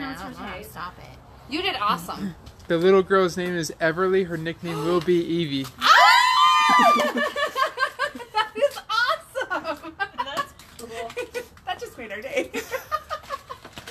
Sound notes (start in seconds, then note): 5.8 cheering; 12.6 laughs